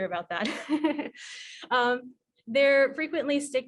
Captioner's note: laughs